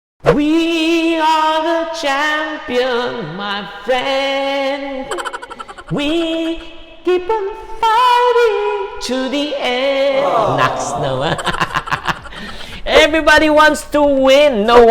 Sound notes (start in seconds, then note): 5.0 laughs; 10.1 laughs